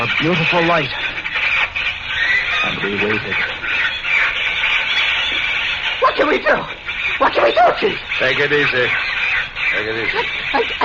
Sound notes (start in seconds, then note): 6.3 panics